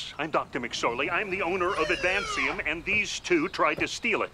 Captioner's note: laughing